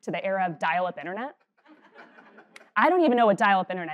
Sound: laugh

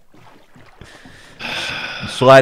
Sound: Schlatt sighs

